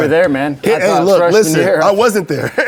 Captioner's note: laughs